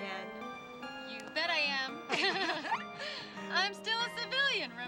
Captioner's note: laughs